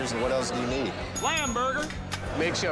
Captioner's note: bell dings